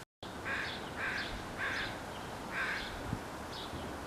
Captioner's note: crow cawing in background